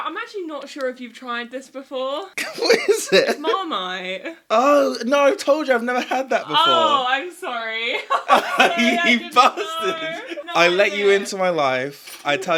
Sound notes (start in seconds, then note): 2.4 boyfriend laughs; 7.9 and boyfriend laugh